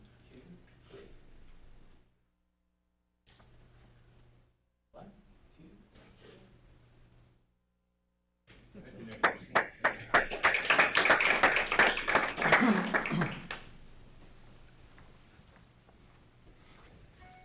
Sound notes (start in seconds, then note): 9.1 applauding